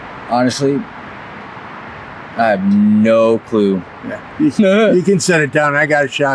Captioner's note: chuckles